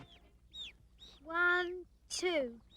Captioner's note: birds chirping